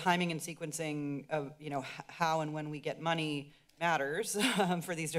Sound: chuckles

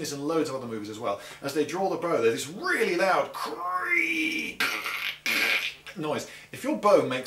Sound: gutteral creak

